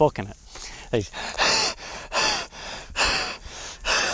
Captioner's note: panting